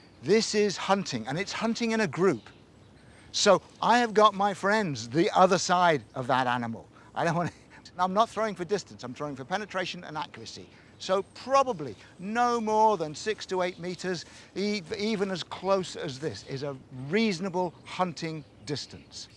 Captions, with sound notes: This is hunting, and it's hunting in a group. So I have got my friends the other side of that animal. I'm not [chortles] throwing for distance; I'm throwing for penetration and accuracy. So, probably no more than six to eight meters. Even as close as this is a reasonable hunting distance.